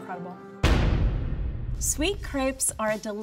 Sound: door slams

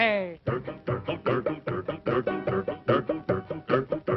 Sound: humming

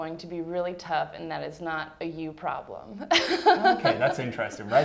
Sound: laughs

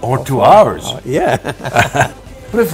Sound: laughing

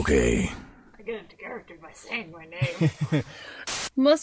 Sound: laughing

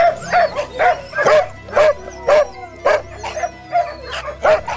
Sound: dogs barking

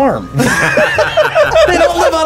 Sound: both laugh

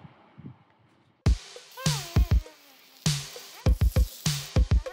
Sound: gurgling

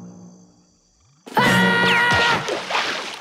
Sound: screaming

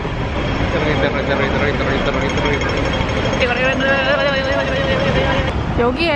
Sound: imitating the traffic light sound

